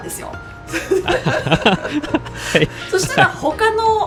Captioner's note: haha